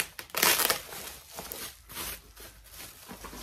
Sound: loud plastic wrapping is loud

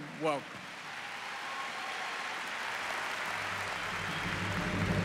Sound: applause

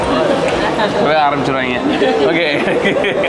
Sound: laughs

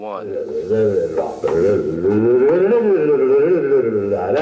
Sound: humming loudly

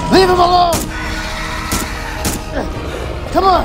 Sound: shots fired

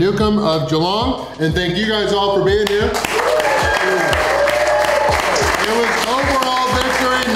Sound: crowd clapping

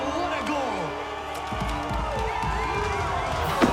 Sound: cheering

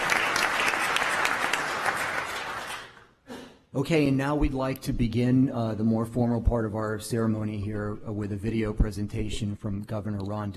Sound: applause

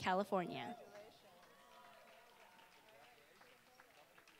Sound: applause

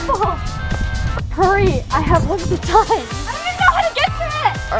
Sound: giggles

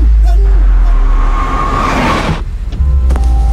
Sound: brakes squeak

